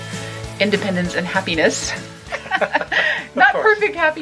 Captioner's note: they both laugh